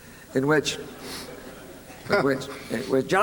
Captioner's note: laughter